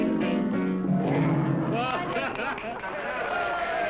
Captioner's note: applause; laughter